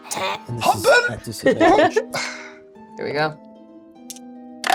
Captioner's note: hurling